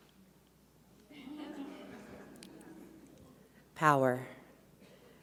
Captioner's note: audience laughs